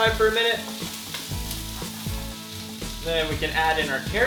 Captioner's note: louder sizzling